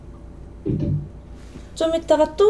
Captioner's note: clunk